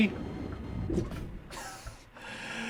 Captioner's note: wheeze